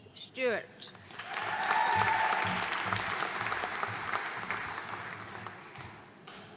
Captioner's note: audience cheering and applauding